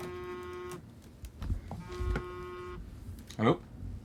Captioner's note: phone buzzing